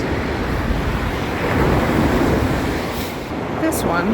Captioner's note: surf roars